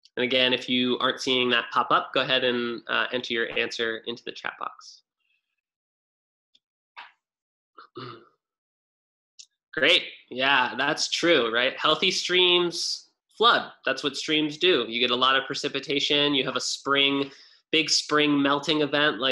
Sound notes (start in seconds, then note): 7.8 clears throat